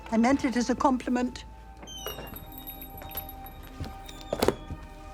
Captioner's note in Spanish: la puerta se abre con un chirrido y se cierra